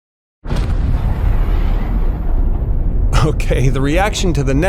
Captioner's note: explosion